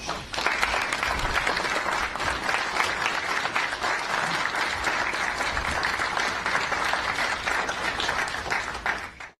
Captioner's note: applause